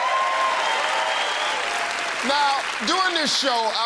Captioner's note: cheers and applause